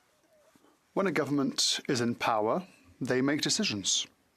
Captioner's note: speaking French